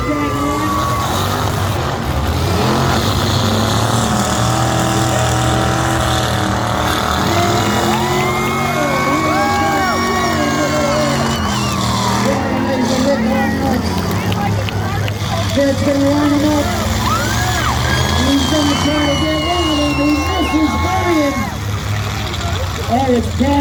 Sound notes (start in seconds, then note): 0.2 engines rev; 8.3 crowd cheers; 8.3 crowd claps